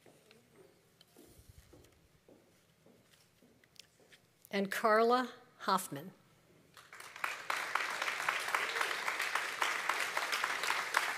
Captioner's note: applause